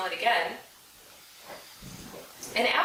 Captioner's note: sniffing